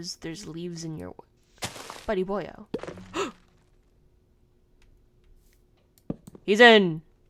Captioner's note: gasp